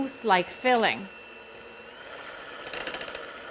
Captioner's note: mixer whirring